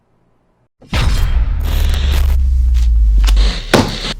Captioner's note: glitching sound